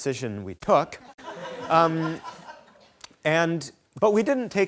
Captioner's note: audience laughing